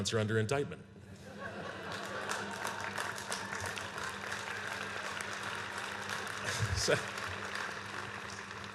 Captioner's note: laughter and applause